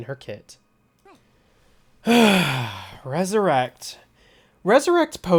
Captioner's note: sighs